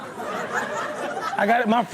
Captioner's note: crowd laughs